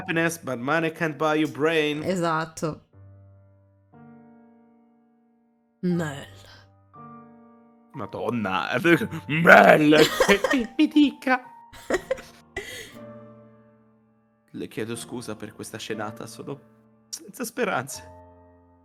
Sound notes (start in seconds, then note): 8.7 grave tone; 10.2 high pitched